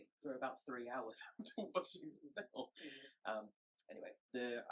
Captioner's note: chuckles